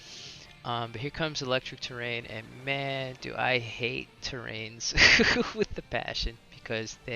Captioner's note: laughs